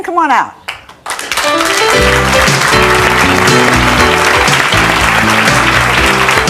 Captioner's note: audience clapping; jazzy music